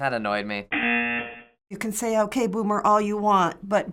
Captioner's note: buzzer